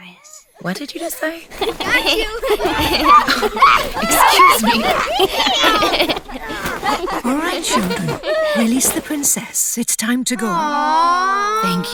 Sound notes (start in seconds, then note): 2.0 giggling intensifies, sounds of tackling; 4.9 laughing